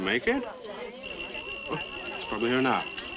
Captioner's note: doorbell rings